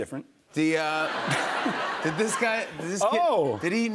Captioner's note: laughter